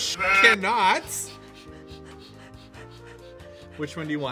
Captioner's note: hiff hiff